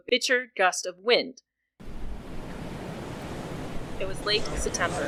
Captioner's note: money chinking and windy outside sounds